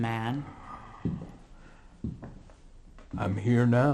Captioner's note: groaning